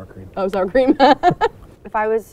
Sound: laughs

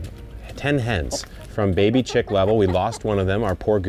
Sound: hens clucking

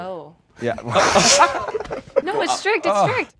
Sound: laughter

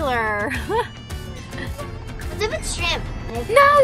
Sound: laughs

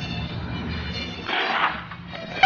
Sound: spits

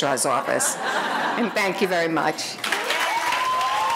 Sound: audience laughing; audience applauding

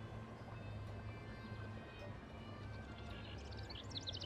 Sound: clock ticking

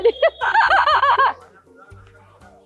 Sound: chuckled

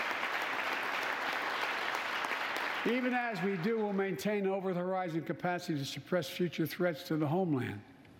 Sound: applause

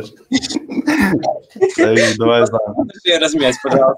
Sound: laughing

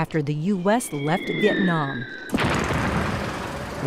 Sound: bomb explosion

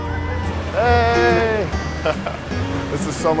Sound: laughs

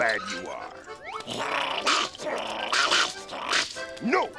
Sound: barking, growling

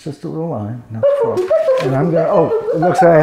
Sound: box beeping

